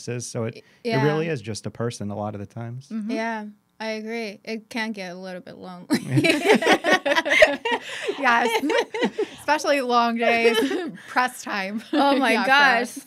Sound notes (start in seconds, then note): 6.0 laughing